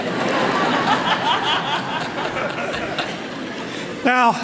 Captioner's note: laughter